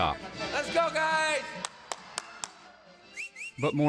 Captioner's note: clapping and whistling